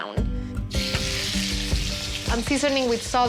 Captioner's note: sizzling